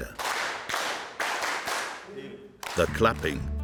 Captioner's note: group clapping